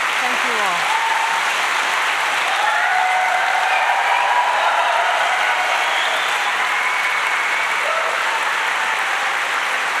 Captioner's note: applause